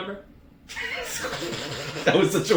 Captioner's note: chuckling